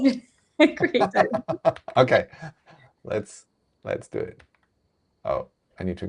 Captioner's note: laughing